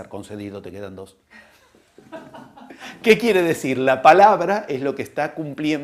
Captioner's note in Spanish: risas